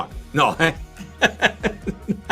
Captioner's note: chuckles